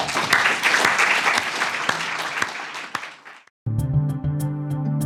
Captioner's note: audience claps; upbeat music